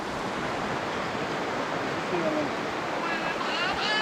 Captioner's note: water rushing